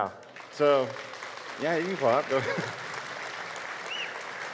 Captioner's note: audience claps